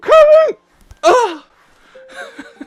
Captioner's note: laughs